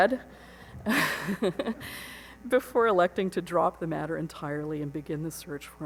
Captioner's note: laughs